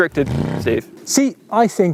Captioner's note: engine revs